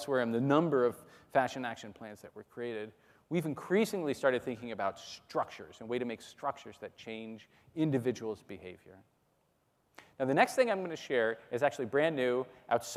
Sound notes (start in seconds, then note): none